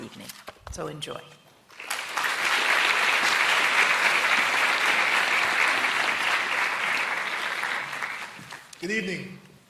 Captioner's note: applause